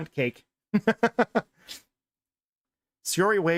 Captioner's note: laughs